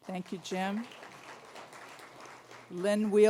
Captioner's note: applause